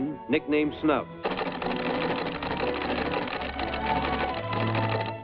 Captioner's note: teletype clacking